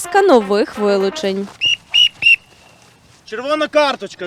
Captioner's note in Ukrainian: звук свистка